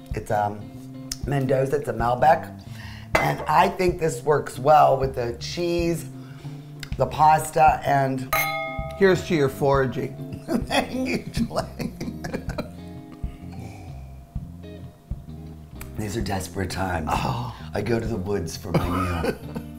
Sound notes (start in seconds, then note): 8.3 wine glasses clinking; 10.6 laughing loudly; 18.8 chuckling